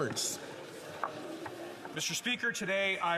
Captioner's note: some Applause